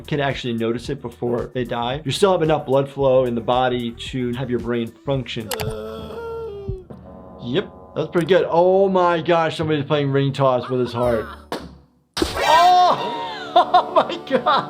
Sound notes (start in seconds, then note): 5.5 Nutty moaning; 12.1 balloon popping; 12.8 laughs